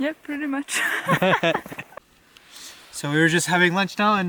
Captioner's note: laughing